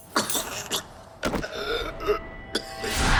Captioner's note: gasping